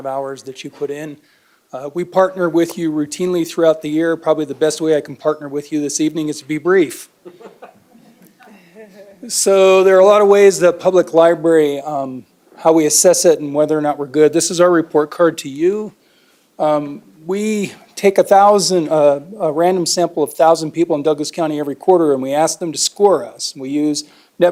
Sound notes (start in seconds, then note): 7.2 laughter